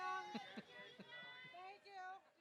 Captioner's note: audience yelling excitedly